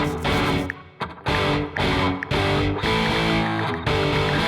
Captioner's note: ticking